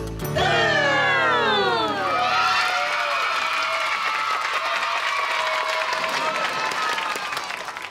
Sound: cheering, applauding

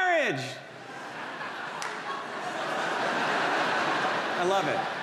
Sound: audience laughs

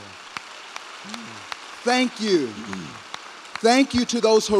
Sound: applause

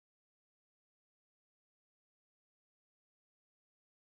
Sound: none

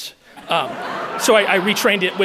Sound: audience laughing

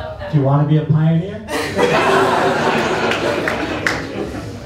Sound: laughter

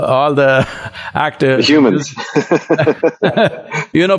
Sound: Sadhguru and Gustaf Skarsgard laugh

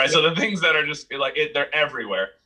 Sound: laughs

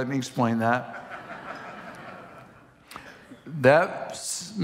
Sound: congregation laughing

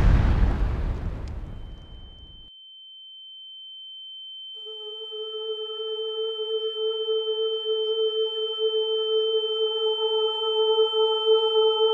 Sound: explosion; ear ringing

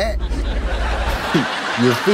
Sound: laughs

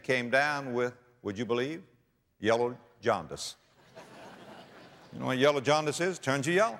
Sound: audience laughter

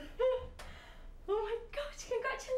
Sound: laughing

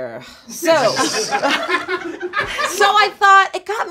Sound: group laughs, including crew from offscreen

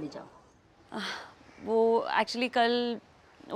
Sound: sighs

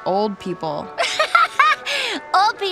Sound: laughing

